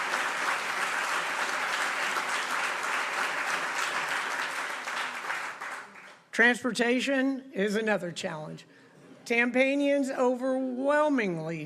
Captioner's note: applause